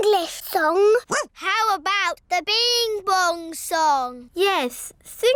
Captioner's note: barks